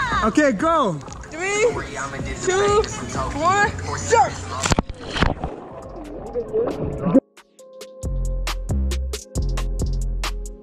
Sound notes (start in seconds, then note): 4.3 water splashes; 5.4 upbeat music